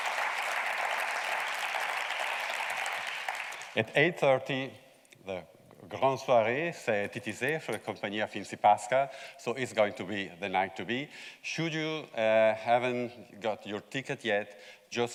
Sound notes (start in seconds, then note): 5.3 speaking foreign language